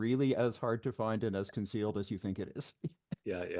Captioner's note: laughs